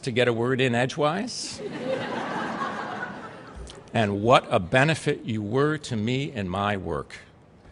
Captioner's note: laughter